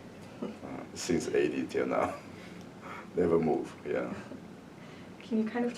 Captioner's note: laughs